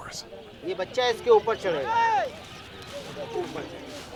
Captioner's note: non-english speech